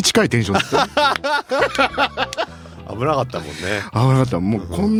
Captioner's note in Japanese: 笑い